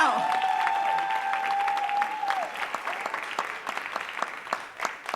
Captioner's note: audience cheering and applauding